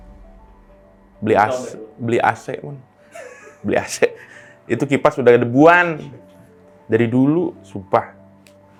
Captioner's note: laugh